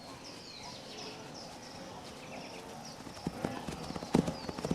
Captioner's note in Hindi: चहचहाहट